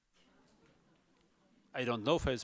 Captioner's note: audience murmurs